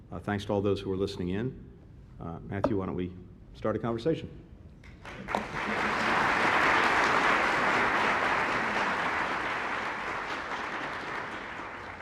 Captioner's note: applause